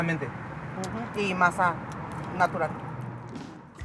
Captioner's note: foreign language